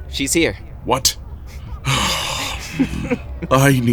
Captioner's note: breathing